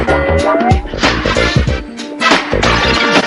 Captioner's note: water runs; boing